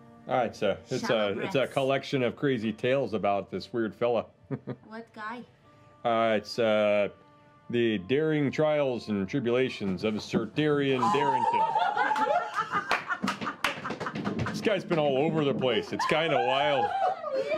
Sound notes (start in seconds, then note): 4.5 chuckles; 10.9 group laughter and squeals of excitement